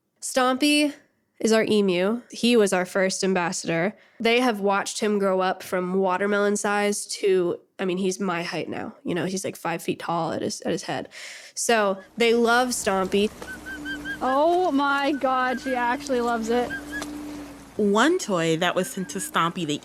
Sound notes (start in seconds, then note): 12.9 Stompy making cute little chirps